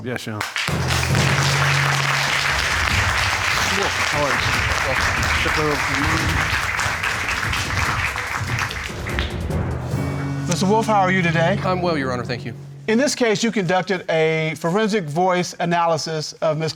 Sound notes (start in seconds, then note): 1.3 audience applauding